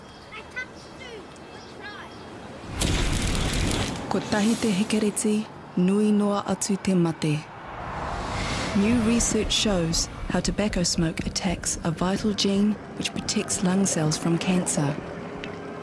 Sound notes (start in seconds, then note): 4.0 speaking in Maori language